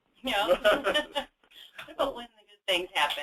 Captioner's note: laughs